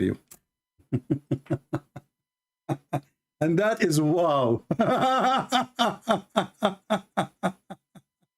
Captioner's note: Ketawa